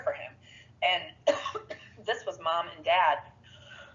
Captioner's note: coughs